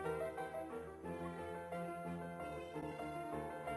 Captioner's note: none